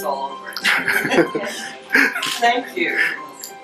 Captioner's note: audience laughter